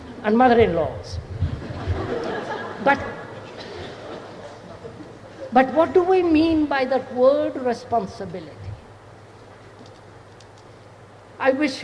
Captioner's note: laughter